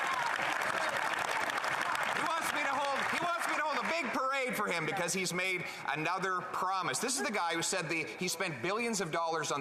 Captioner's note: yelling